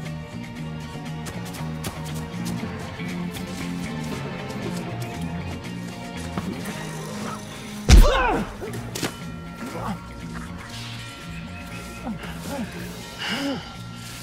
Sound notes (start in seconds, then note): 1.5 thrilling music continues; 7.9 fist pounds; 7.9 groans